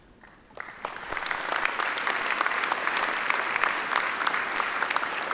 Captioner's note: attendees applaud